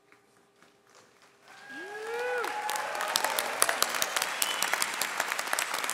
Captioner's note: audience cheering and clapping